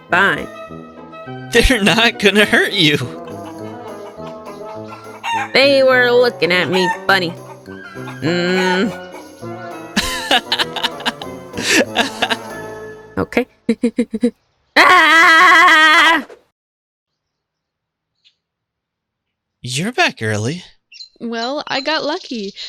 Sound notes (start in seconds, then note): 9.9 laughing